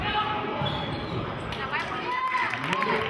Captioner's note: yelling